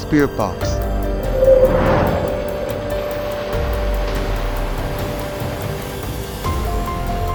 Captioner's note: suspenseful dramatic music; intense whooshing